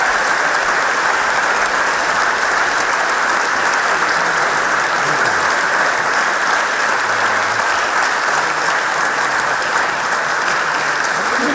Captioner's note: applause